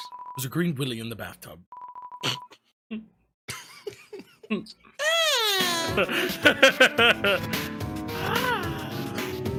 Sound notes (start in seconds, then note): 3.5 laugh; 5.7 laughs